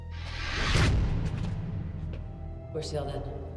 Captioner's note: doorway thudding